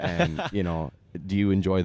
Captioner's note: laughs